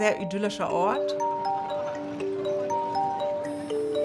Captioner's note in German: Stimmengewirr, neugierige Musik